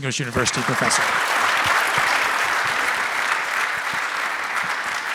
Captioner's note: audience applauding